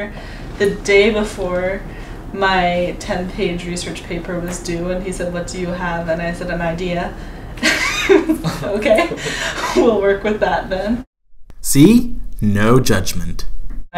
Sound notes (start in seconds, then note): 7.6 laughing